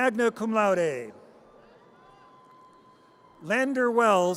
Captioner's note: audience cheers